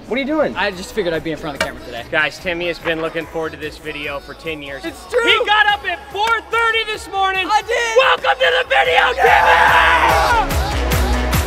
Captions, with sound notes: what are you doing? I just figured I'd be in front of the camera today. Guys, Timmy has been looking forward to this video for 10 years. It's true! He got up at 4:30 this morning. I did! (SHOUTING) Welcome to the video, Timmy! Yeah!